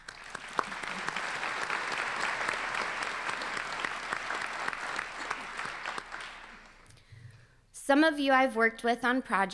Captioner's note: applause